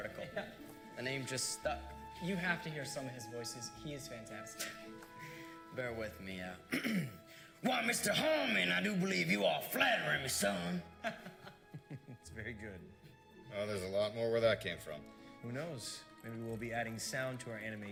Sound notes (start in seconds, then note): 13.1 snickering